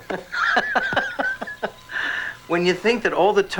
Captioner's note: laughs